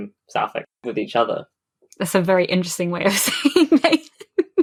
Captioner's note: laughing